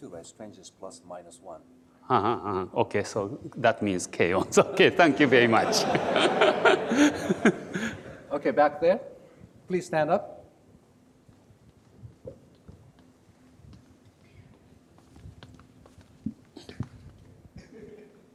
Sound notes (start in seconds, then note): 6.0 laughs